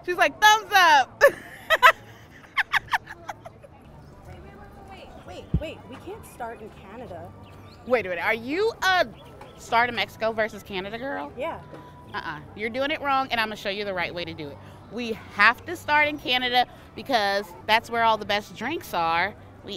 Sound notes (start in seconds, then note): 1.2 laughing